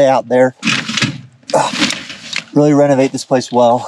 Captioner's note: equipment clanging